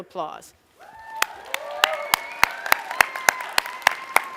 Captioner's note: applause